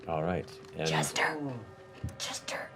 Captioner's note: whispered